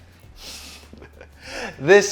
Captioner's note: giggles